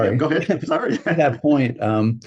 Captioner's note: laughs